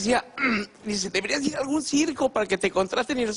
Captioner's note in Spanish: carraspea